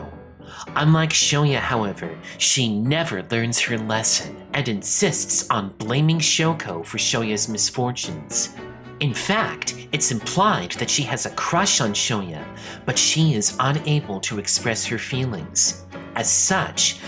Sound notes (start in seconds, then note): none